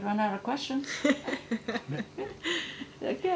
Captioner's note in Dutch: gelach